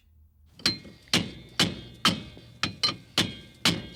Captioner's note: metal clanging